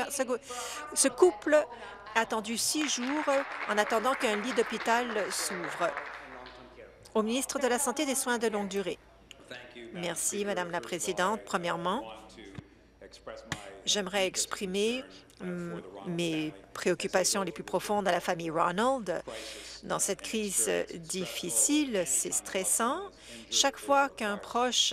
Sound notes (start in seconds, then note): 6.0 applause